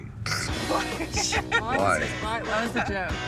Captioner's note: all laugh